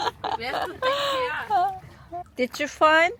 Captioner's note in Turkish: kahkaha